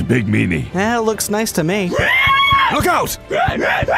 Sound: enemy warthog growls and charges

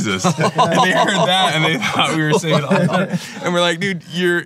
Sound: laughing; mumbling

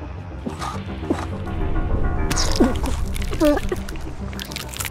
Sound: supernatural riser; bones breaking

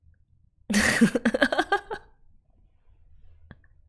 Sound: laughs

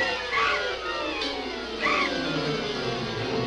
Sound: bat shrieks

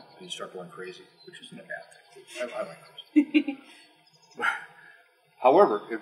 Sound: laugh

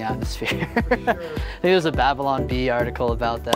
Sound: laughing

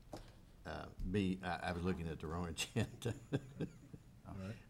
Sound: chuckling

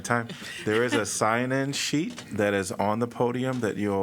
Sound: laughter

